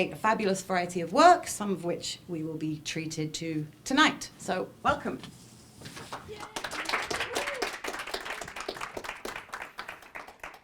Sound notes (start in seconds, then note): 6.0 applause